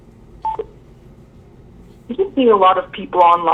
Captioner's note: phone beeps